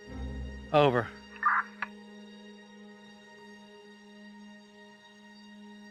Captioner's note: police radio squawking